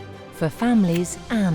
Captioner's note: kisses smacking